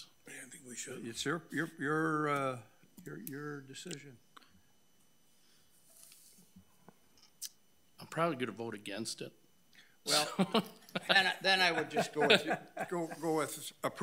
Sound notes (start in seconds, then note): 10.1 laughing